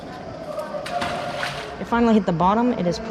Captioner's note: loud splash of magnet